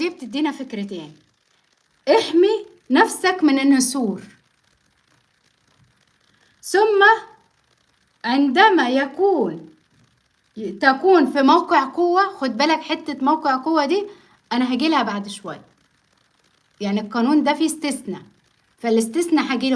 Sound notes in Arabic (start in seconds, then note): none